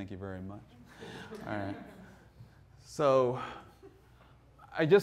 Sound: audience laughing

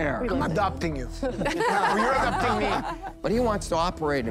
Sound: laughter

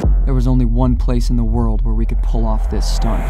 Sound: none

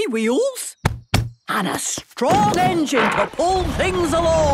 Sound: thumping

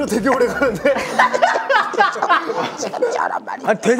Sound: they burst into laughter

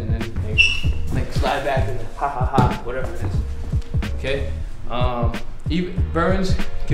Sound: ha ha ha

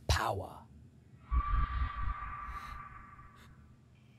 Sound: a demonic beast screams out in the distance

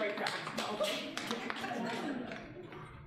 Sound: audience laughing

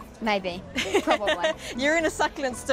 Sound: laughs

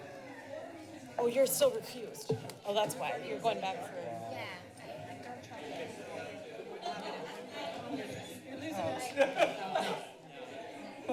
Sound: background conversations

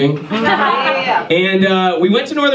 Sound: audience laughs

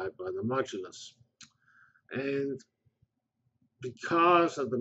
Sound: pause

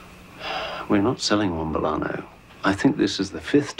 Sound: sighs

